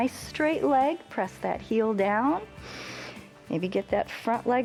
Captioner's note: inhales